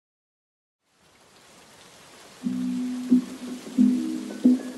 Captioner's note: sounds of Soft Rain